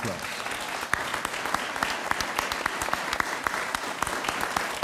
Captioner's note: audience applauds